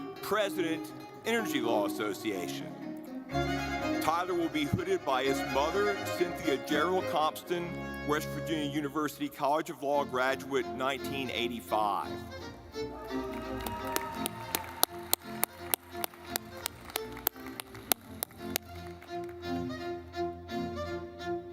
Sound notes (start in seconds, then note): 12.5 lively music; 13.0 audience clapping